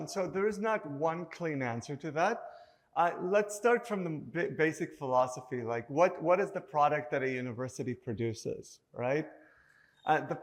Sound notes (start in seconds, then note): none